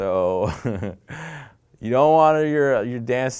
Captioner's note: laughing